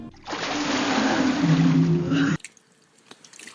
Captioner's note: water sloshing